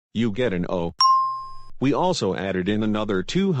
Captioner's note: ding!